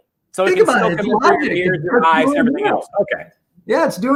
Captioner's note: murmurs